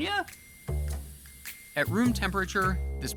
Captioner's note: gas hissing